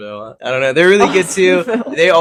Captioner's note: laughing